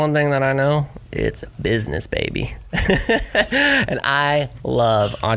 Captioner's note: laughs